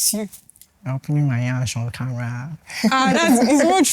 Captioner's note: laughs